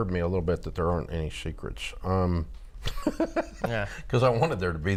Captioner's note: laughs